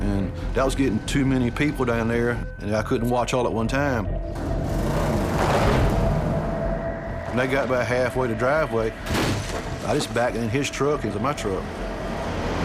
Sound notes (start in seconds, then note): 4.5 engine revs